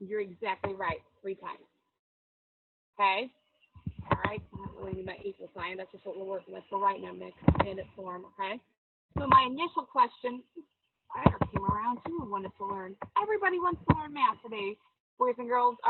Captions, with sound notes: You're exactly right, three times. Okay, alright. (speaking in low tones) So my initial question, everybody wants to learn Math today, boys and girls.